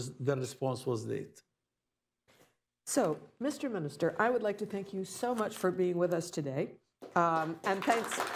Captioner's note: applause